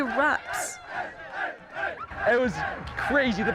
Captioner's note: chanting